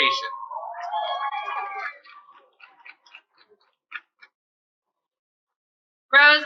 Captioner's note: cheering